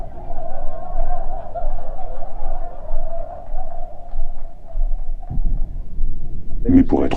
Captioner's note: laughter proceeds to die down